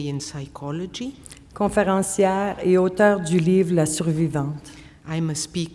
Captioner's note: speaking French